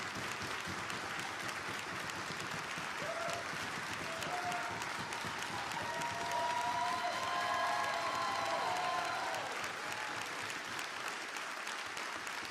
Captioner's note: applause; applause